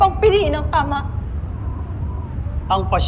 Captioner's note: wind howling